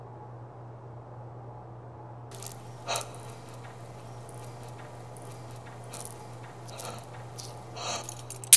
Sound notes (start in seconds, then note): 2.3 heavy breathing; 8.4 handcuff clinks